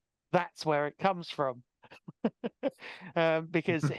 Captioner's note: laughing